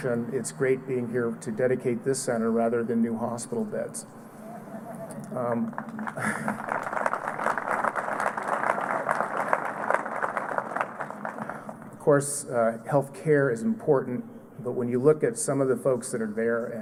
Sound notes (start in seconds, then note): 5.5 applause